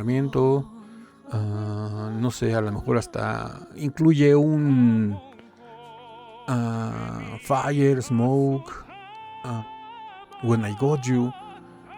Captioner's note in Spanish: lloros